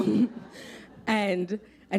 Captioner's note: laughter